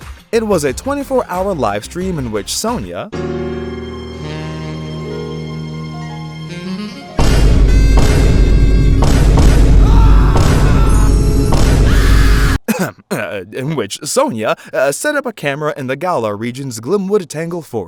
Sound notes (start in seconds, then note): 12.3 ahem